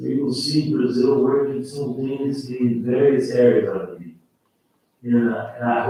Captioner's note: faintly speaking